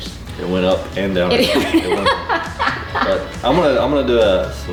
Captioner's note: laughing